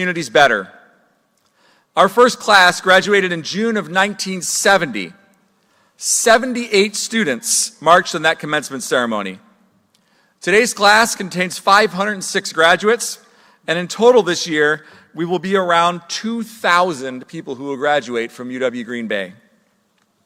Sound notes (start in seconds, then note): none